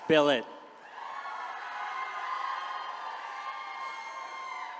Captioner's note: attendees cheering